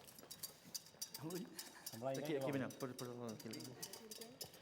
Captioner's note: non-english speech